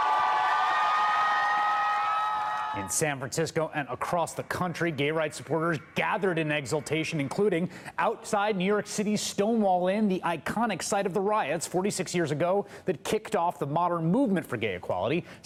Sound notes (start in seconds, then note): 2.5 cheers and applause